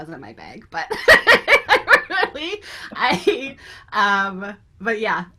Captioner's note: laughs